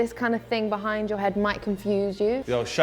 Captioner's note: none